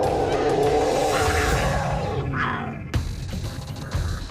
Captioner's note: growling; suspenseful music